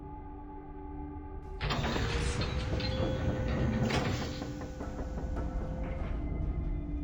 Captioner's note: metal bolt turning